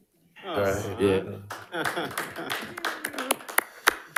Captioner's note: audience applauding